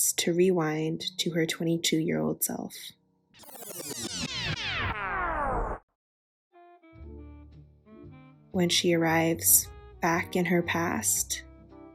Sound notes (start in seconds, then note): 3.4 record rewinds; 6.6 gentle music